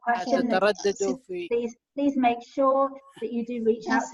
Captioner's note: someone speaking in a foreign language